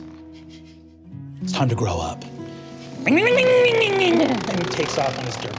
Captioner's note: mimics engine revving